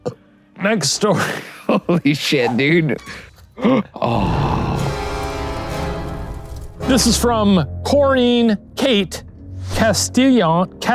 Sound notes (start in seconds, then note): 0.2 burps; 3.6 gasp; 3.9 ominous music